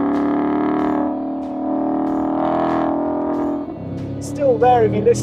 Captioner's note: engine revving continues